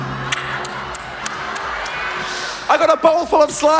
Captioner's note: disgusting mouth sounds